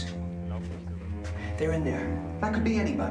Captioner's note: speaking german